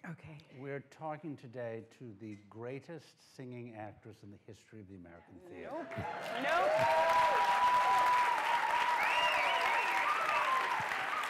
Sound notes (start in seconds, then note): 5.7 cheering